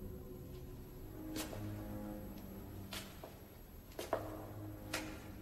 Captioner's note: footsteps shuffle